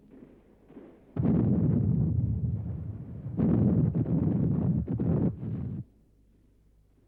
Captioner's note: explosions